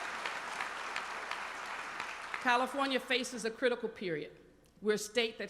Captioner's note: applause